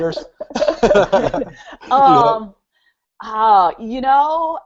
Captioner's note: laughing